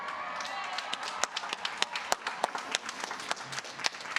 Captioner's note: cheers and applause